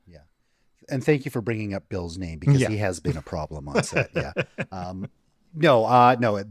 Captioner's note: laughter